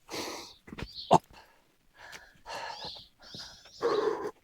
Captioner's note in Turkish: homurdanır